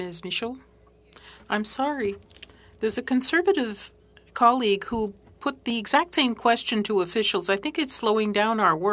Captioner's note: speaking French